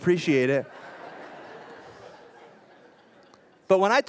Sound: laughter

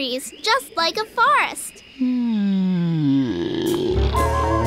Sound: yawning

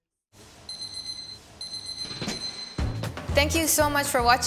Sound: timer beeps

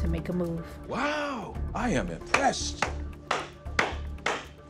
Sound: clapping

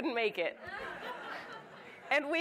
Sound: audience laughs

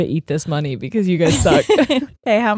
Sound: both laughing

